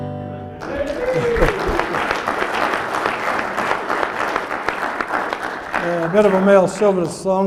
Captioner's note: applause